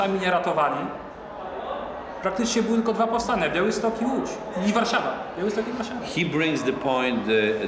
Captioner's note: speaking Polish